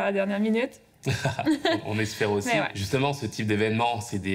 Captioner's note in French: rires